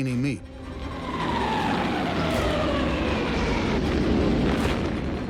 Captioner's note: bombs whistling; explosion booming